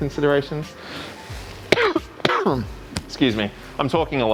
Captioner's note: coughs